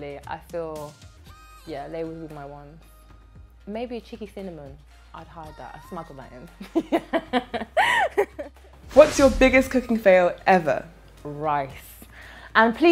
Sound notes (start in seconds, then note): 6.6 laughs